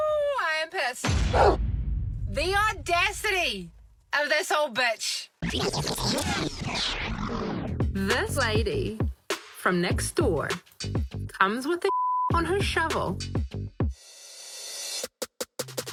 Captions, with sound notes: -The audacity of this old bitch. [ Tape rewinds ]